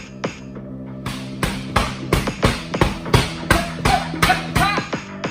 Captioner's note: music continues to build; heavy bag beating